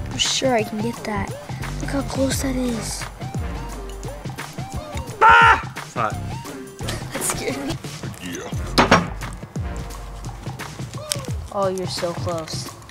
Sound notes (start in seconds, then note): 4.6 shouts